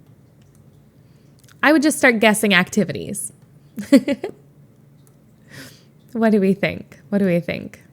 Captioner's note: Emma laughs